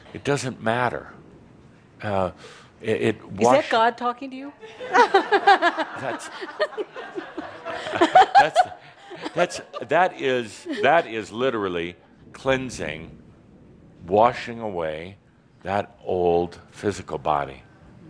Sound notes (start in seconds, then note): 4.6 some chuckles and giggling